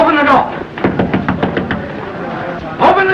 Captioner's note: knocks on door